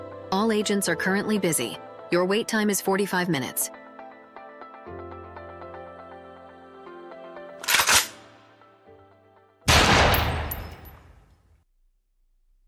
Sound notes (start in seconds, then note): 7.6 gun cocks; 9.6 gunshot